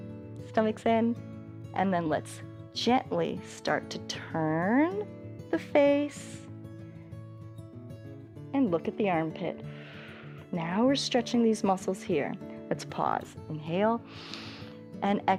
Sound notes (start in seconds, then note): 9.6 exhales; 14.0 exhales; 14.0 inhales